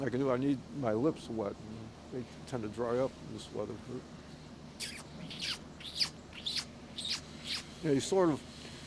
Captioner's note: makes noise on hand